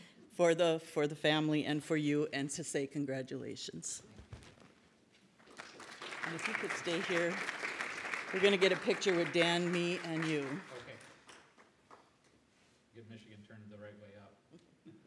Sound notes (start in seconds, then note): 5.4 audience applauds; 14.8 laughs